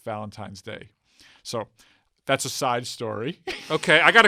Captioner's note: laughs